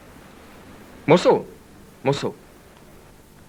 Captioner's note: speaks Spanish